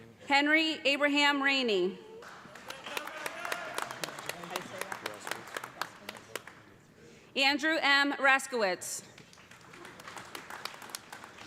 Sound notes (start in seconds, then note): 2.2 cheers and applause; 9.1 applause